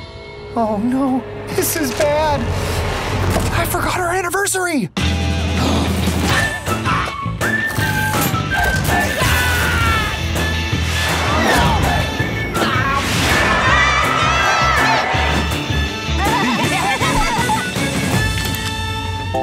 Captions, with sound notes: Oh, no. This is bad. I forgot our anniversary! Aagh! [crowd cheering] [laughing]